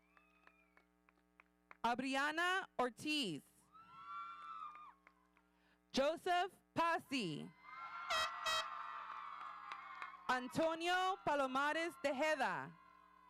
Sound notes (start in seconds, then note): 3.8 audience cheering; 7.6 audience cheering; 8.1 horns honking